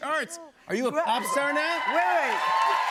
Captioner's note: cheers and applause